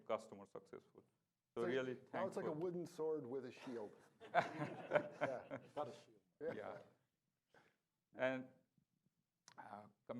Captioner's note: laughing